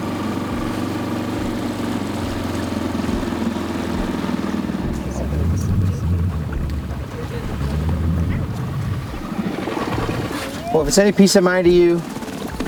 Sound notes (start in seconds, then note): 0.1 outboard motor puttering; 5.8 water gently splashing